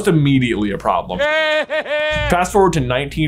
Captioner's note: Voldemort laughing